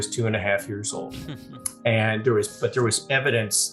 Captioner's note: chuckles